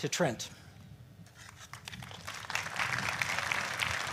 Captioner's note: applause